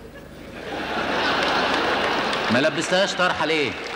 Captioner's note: audience laughter